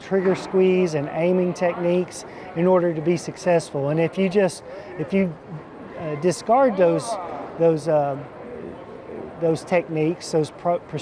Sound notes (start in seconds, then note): none